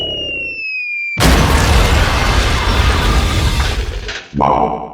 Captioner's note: loud thunderous crash!!!